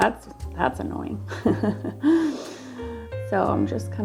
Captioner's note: laughing